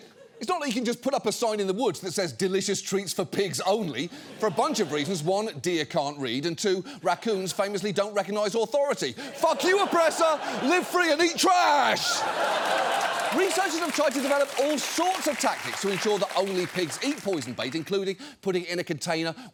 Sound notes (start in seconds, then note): 12.2 studio audience laughing